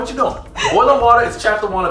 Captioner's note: laughing